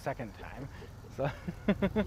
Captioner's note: laughs